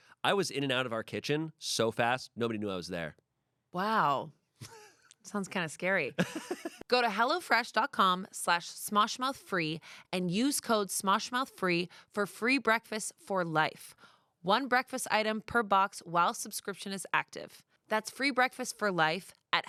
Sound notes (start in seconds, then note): 6.2 laughs